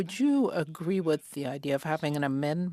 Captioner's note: speaking French